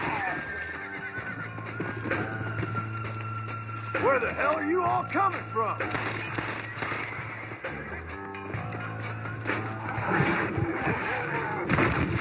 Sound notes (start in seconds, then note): 1.1 creepy mission music; 5.8 random firing sounds